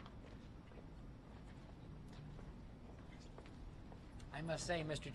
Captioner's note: footsteps